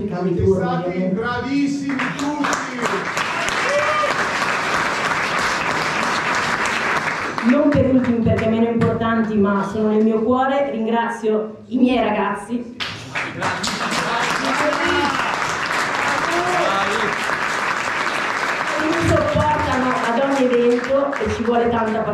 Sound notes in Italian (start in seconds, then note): 1.7 Applauso